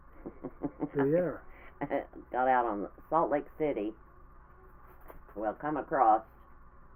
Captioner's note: laughing